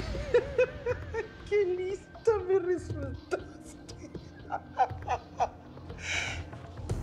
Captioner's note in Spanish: Risas